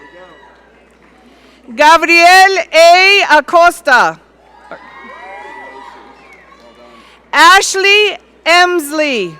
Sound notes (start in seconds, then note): 4.5 audience cheering